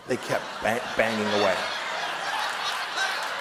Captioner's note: laughter; applause